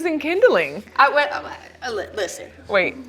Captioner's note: stuttering